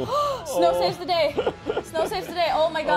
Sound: gasp

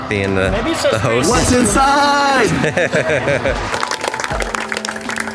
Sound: laughing; audience applauding

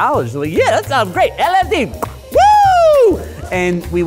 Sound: cheers

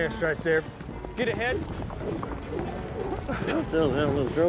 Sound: rope swirling

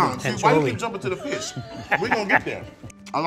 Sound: both laughing

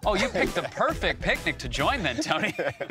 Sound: both laugh

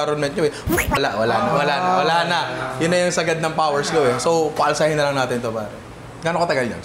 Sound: timelapse sound effect

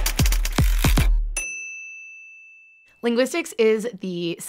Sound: bell dings

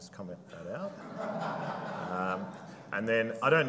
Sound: audience laughing

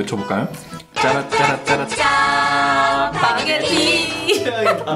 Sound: imitating TV cf

